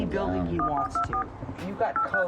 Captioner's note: pad beeping